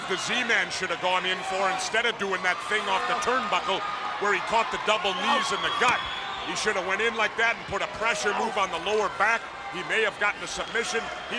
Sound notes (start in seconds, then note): 5.8 hands thudding; 5.9 wrestlers grunting